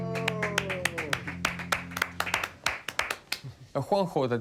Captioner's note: applause